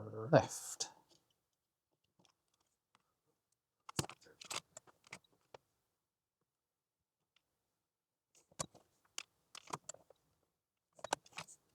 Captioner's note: silence